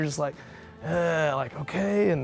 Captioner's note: groans